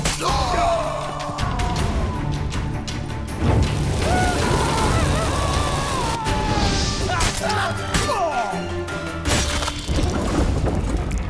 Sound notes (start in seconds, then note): 0.8 cries out; 1.8 flames crackle; 4.0 screaming; 7.9 scream, groan